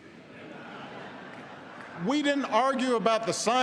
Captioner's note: laughter